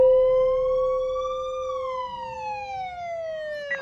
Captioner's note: sirens wailing